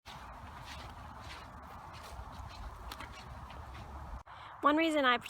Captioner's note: footsteps